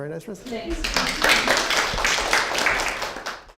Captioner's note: applause